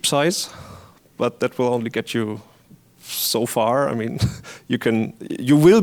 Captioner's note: chuckles